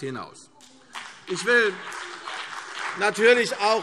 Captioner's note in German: Beifall CDU und BÜNDNIS 90/DIE GRÜNEN